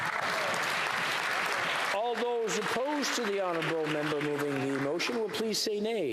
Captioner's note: applause